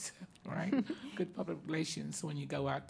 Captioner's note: laughing